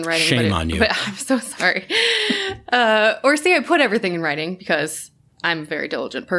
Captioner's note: laughter